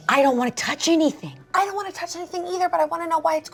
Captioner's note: none